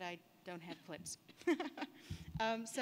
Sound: laughs

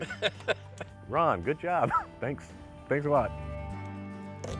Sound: chuckles

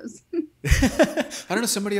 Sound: laughing

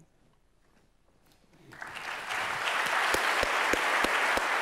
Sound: applause

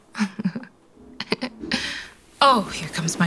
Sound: laughing; footsteps ascending

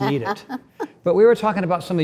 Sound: Cynthia laughs

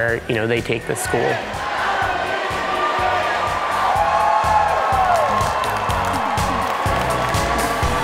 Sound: cheering

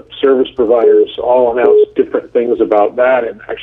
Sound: incoming call beep

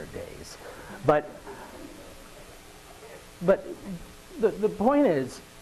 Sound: audience laughing

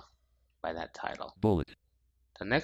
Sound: screen reader voice

